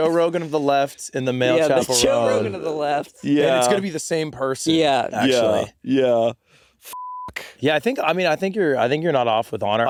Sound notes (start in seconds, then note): 6.5 beeping